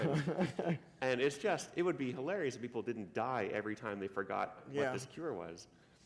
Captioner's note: laughter